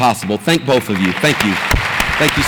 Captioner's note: audience applauds